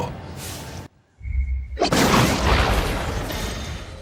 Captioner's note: explosion